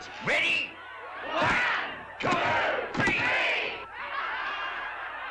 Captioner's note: crowd; crowd laughs